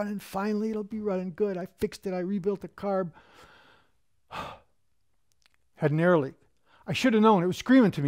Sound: sigh

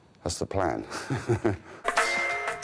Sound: laughs

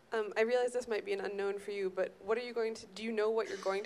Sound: voiceover

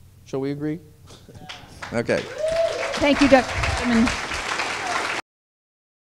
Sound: applause

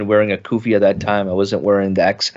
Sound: speaks in foreign language

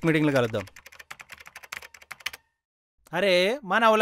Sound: keyboard sounds

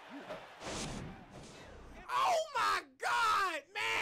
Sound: cheering and screaming

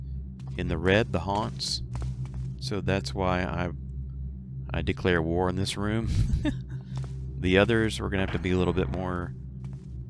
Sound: laughs

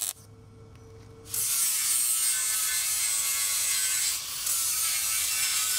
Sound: grinding machine running

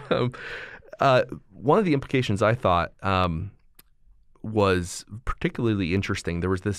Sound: chuckle

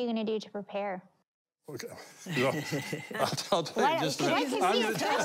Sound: sighs; laughing

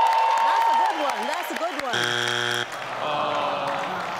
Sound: cheering; buzzing; audience sighs

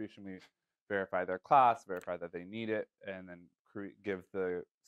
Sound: none

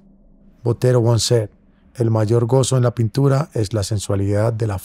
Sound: speaking spanish

